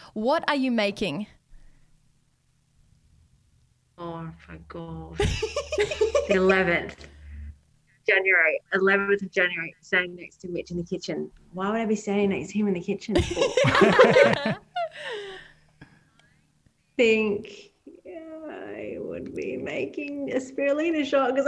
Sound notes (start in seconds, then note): 13.1 laugh